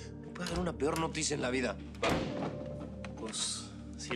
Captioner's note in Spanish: Ruido en la puerta